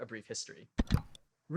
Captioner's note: click